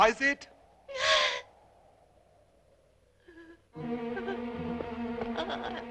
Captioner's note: suspenseful orchestral music; sobbing